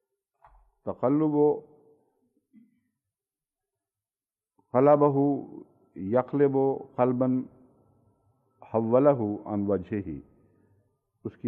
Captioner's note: Arabic